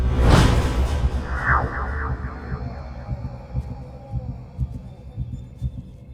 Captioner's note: heartbeat pounding